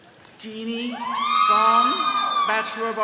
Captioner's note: all cheering